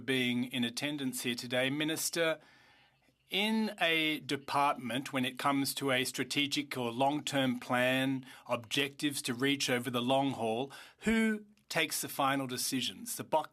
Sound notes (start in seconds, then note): 5.2 speaking French